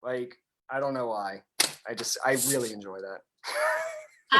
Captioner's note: chuckles